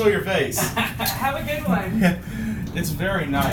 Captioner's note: laughs